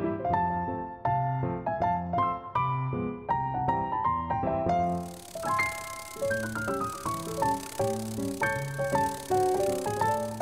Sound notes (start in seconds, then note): 4.9 soft fluttering noise